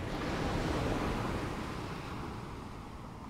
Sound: ocean waves sounds; waves crashing on rocks sounds

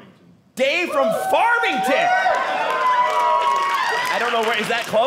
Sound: audience cheering

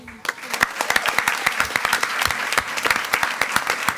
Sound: attendees clapping

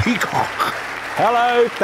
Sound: audience applauding

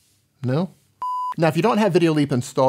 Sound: loud beep

